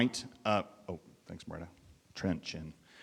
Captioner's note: speaking faintly